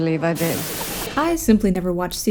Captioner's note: static